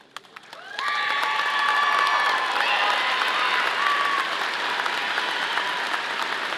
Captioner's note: audience applauding; audience cheering